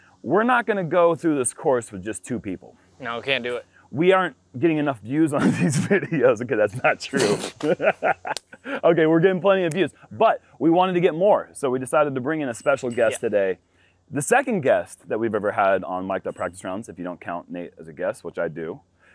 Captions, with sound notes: We're not going to go through this course with just two people. -No, we can't do it. -We aren't getting enough views on these videos. [chuckles] Okay, that's not true [laughs] . Okay we're getting plenty of views, but we wanted to get more, so we decided to bring in a special guest today. The second guest that we've ever had on Mic'd Up Practice Rounds if you don't count Nate as a guest, which I do.